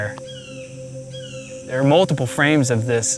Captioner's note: bird cawing